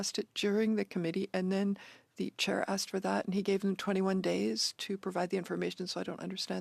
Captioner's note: speaking French